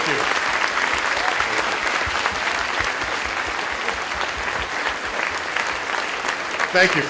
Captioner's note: applause